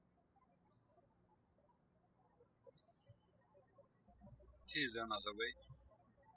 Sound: birds chirping

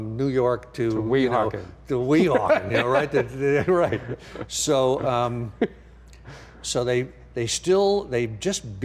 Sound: laughing

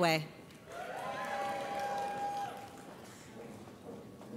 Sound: audience cheers

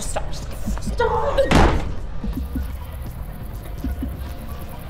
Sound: Ruth thudding

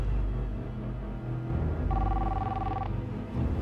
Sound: cellphone ringing

